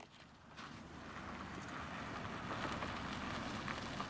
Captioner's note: car approaching